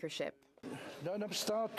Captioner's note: speaking French